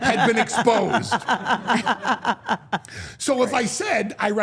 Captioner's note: Steph and Elyse laugh